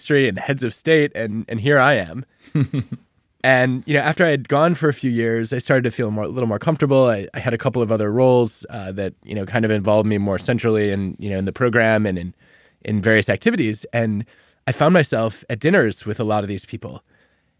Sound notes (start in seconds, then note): 2.4 laughing